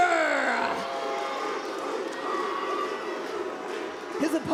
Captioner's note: audience hooting